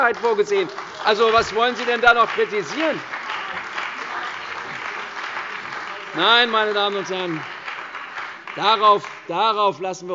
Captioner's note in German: Beifall bei der CDU und dem BÜNDNIS 90/DIE GRÜNEN